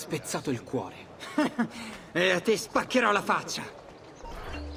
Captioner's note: laughs